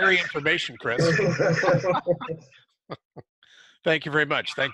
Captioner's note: both laugh